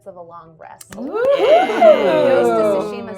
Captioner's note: everyone cheering